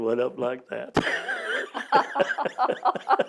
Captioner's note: laughter